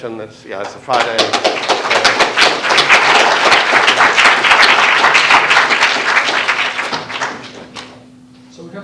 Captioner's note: applause